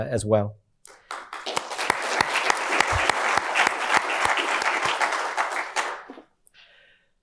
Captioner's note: audience applauding